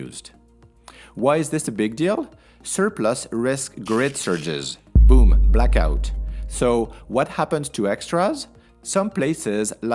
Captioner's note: boom—blackout!